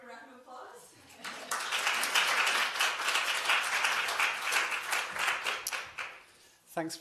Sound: audience clapping

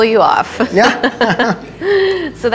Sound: laughs

